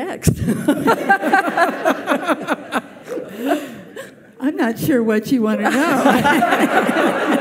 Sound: laughs; audience laughs

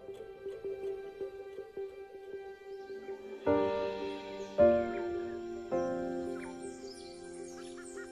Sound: somber piano music; birds and insects chirping

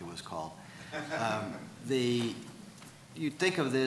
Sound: audience member laughs

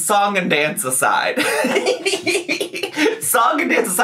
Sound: laughs

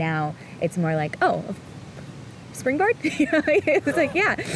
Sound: laughs

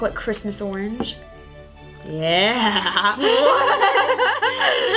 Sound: both laugh

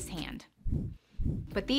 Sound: whooshing

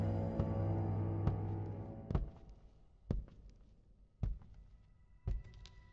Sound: suspenseful music; footsteps thudding

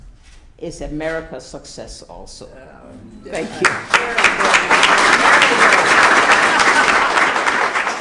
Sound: applause

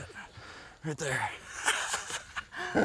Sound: laughing

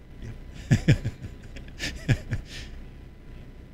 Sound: laughter

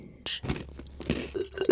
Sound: crunch; slurp

